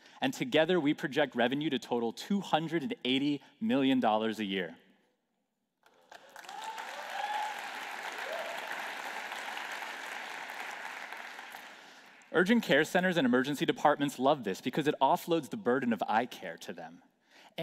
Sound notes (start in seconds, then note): 5.8 applause